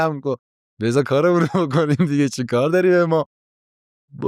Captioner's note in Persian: خنده